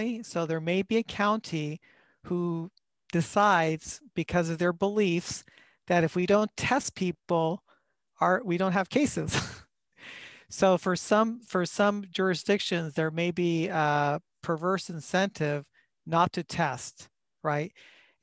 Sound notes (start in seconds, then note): 9.3 laughter